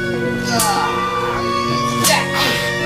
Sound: groaning

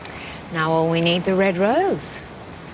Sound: none

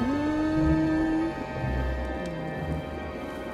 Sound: humming

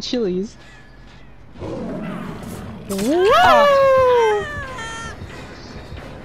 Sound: pig growls

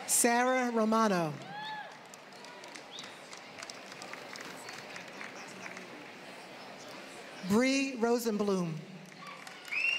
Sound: applause; applause

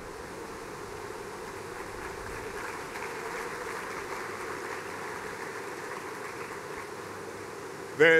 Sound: applause

